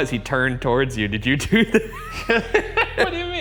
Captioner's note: laughs